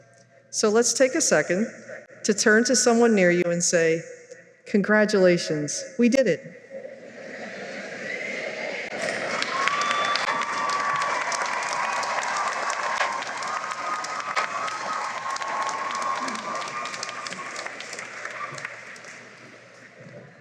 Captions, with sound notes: So, let's take a second to turn to someone near you and say, "Congratulations! We did it!" [cheering and applause]